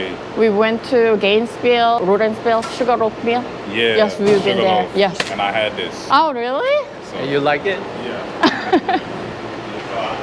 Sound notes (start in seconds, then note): 8.4 Laughs